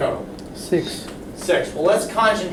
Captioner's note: voiceover